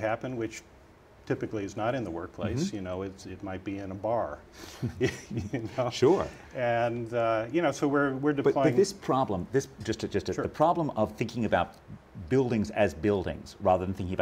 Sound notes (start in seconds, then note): 4.8 laugh